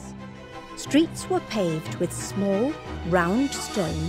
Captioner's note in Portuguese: Voz Feminina